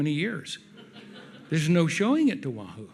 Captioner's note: audience laughs